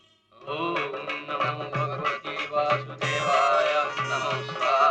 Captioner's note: chanting mantras